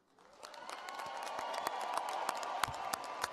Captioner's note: applause